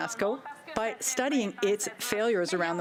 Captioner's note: speaking french